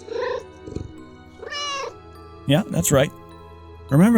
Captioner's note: meow